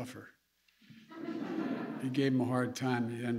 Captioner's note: laughter